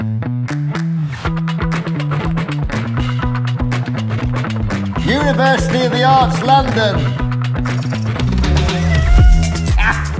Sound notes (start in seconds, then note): 8.2 laughter